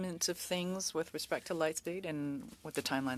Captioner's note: speaking French